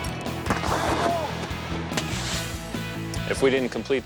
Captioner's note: bangs